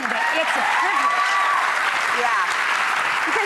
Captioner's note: audience applause